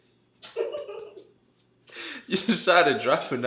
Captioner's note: both giggle